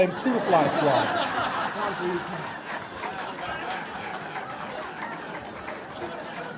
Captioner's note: audience laughter